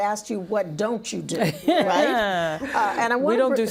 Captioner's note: laughing